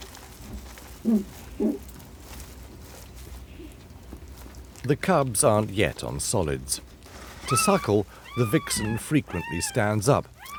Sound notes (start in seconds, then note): 1.6 fox moans